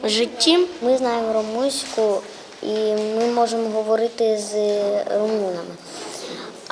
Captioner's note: Ukrainian